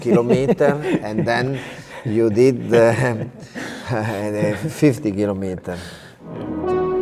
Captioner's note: chuckles